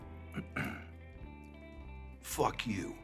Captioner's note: clears throat